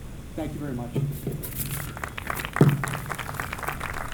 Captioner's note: applause